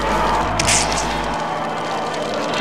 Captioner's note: roar; big splat